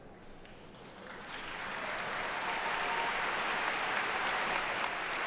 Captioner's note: attendees and staff applauding